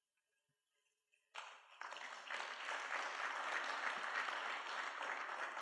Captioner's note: applause